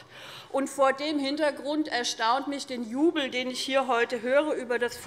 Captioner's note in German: none